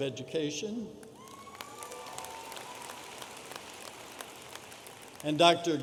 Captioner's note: audience applauding